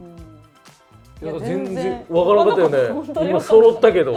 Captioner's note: laughs